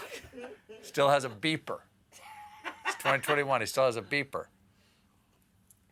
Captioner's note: laughter